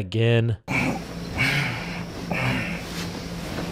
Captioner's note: groans